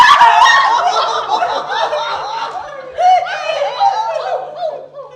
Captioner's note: laughter